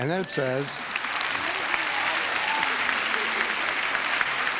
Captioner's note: audience applauding